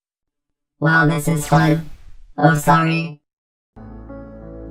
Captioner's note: explosion